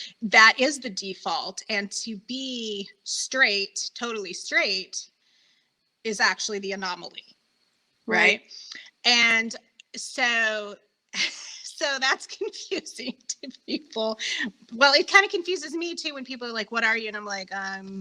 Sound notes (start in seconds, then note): 12.9 laughing